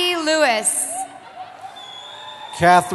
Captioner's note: cheering